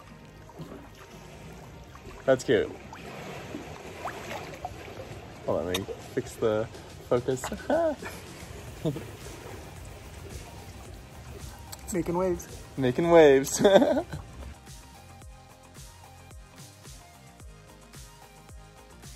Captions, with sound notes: That's cute. Hold on, let me fix the focus. Ah! - Making waves. - Making waves (laughs). (soft electronic music)